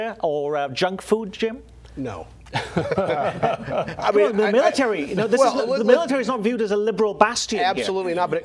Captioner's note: laughter